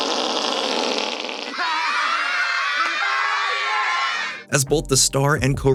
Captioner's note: imitates fart; laughter, cheering